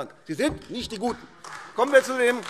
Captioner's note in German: Beifall AfD